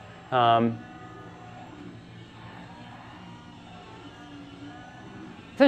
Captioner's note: helicopter propellers whirring